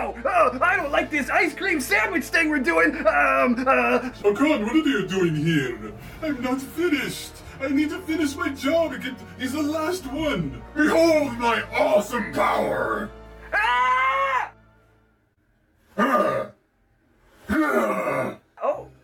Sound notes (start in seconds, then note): 13.4 Sub-Zero Screams; 15.9 Shao Grunts